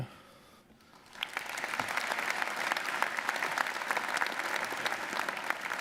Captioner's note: audience applauding